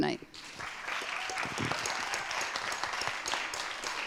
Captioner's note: audience claps